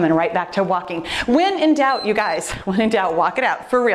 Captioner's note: timer beeps